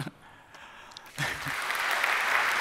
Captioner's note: applause